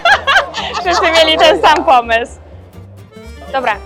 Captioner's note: laughs